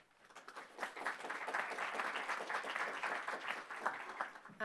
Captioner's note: applause